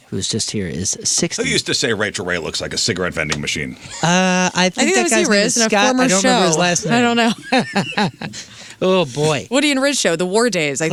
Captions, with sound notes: who's just here is 60. Who used to say Rachel Ray looks like a cigarette vending machine? I think that guy's a former show. I think that guy's a Scott. I don't remember his last name. I don't know. (laughing) Oh boy. Woody and Riz show, The War Days.